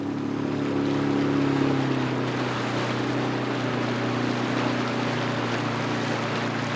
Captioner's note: boat motor humming; water sloshing